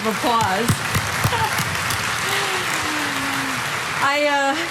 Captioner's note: audience applauding